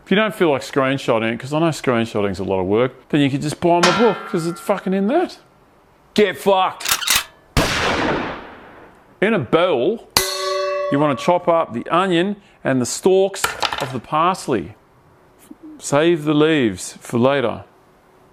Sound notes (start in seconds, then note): 7.6 gunshot sound; 10.2 metal ding